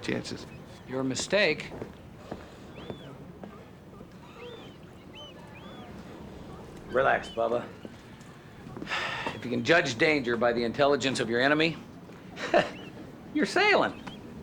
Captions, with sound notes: I'll take my chances. Your mistake. Relax, bubba. (sighs) If you can judge danger by the intelligence of your enemy... (chuckles) you're sailing.